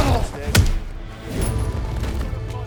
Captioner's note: groaning